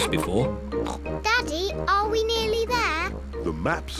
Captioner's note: snorts